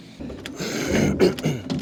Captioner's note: door opens